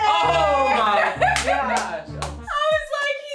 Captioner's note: laughing